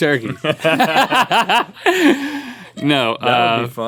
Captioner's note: both laugh